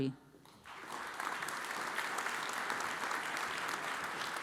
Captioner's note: audience applauds